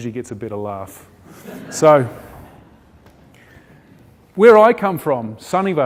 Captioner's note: audience chuckling